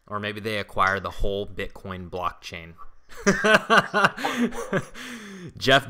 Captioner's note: laughs